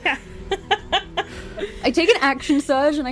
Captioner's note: laughter